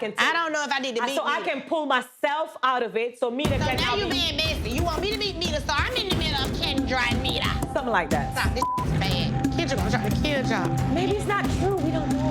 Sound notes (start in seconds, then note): 8.0 beep